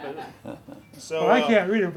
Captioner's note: laughter